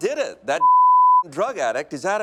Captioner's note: bleeping sound